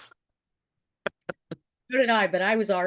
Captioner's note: chuckles